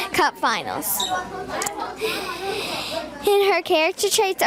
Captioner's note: students chattering